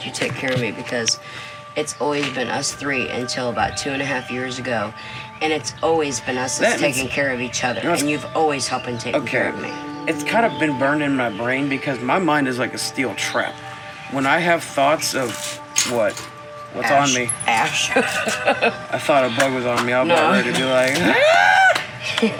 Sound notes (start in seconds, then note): 17.7 laughing